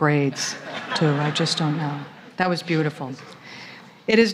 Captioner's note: laughter